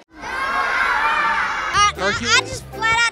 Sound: children yelling

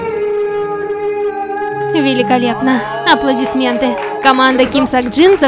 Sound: applause

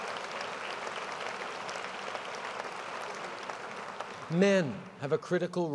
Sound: applause

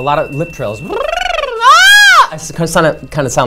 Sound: mouth warmup sounds

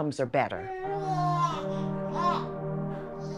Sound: baby cooing

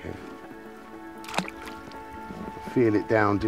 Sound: water plopping

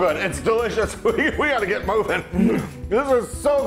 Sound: laugh

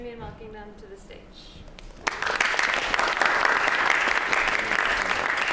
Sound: applause

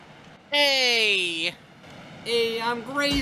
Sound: in a NYC accent

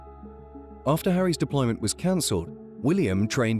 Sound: voiceover

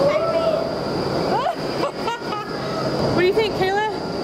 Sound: laughing

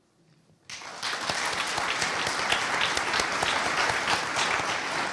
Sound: audience applauding

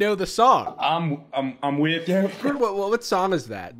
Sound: gurgling

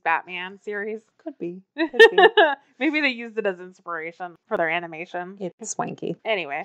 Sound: laughs

